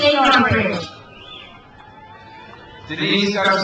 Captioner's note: crowd cheers